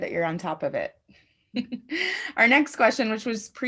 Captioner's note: chuckles